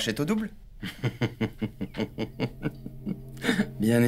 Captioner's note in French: Rires